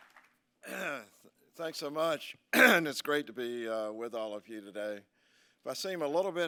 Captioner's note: applause